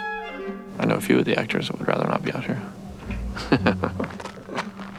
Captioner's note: chuckles